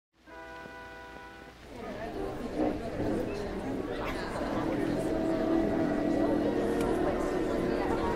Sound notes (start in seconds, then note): 0.2 audience chattering; 1.7 soft orchestral music